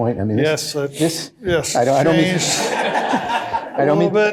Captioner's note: laughter